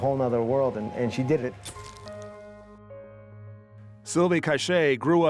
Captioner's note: camera shutter clicks